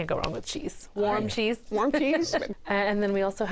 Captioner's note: laughs